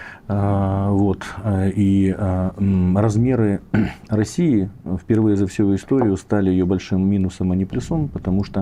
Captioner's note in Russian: откашливается